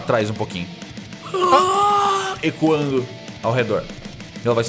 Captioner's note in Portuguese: Grunhido